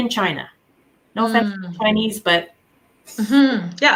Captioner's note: faintly speaking